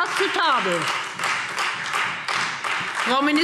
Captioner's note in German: Beifall Freie Demokraten und vereinzelt SPD